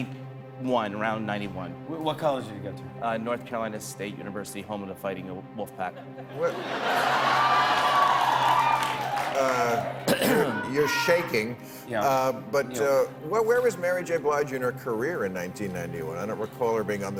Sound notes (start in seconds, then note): 3.3 cheers and applause